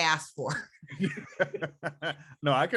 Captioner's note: laughing